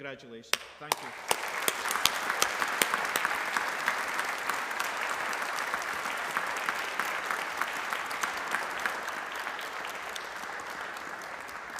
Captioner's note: applause